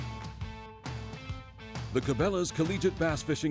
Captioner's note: voiceover